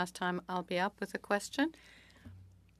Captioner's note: speaking French